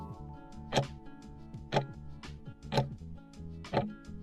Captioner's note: timer ticking